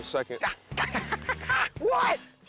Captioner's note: laughs